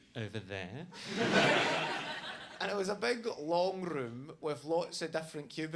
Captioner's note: audience laughs